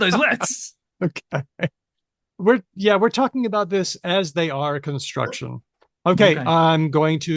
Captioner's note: laughs